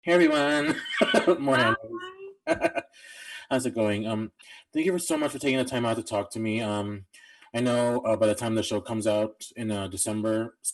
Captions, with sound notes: - Hey, everyone! (laughing and greeting) More hand waving. (laughing) How's it going? Thank you so much for taking the time out to talk to me. I know by the time the show comes out in December,